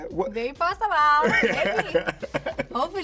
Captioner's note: laughs